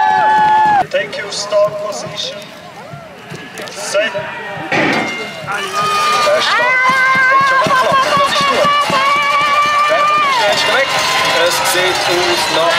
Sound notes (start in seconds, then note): 5.4 cheering